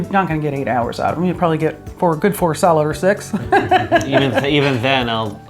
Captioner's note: laughs